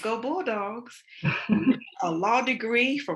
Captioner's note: laughs